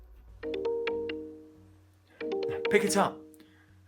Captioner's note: phone ringing